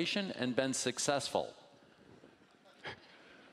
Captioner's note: laughing